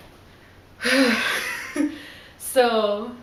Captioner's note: sighs loudly